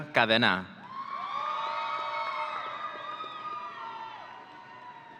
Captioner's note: audience cheering